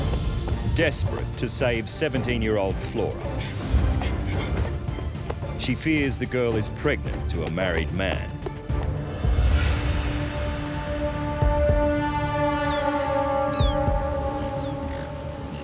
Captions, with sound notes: Desperate to save 17 year old Flora. [crying] She fears the girl is pregnant to a married man. [ominous music] [seagull chirps]